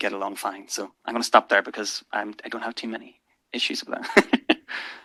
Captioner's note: laugh